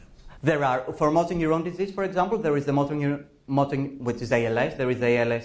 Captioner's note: professor speaking